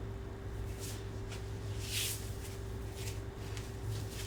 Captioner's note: wig rustling